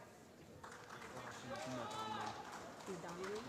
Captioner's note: applause